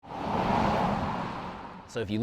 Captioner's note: vehicle passing